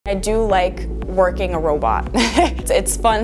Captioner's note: chuckles